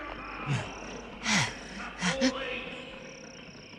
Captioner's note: Toad pants